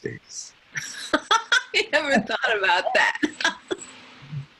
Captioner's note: laughing